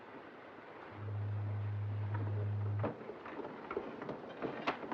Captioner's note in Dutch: scheepshoorn blaast